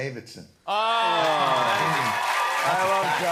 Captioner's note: cheers and applause